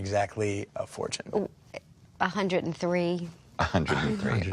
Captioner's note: stammers